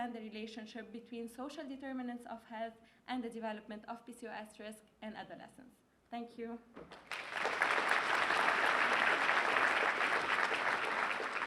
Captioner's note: applause